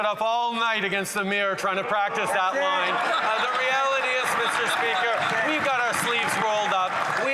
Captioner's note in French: voix de l'interprète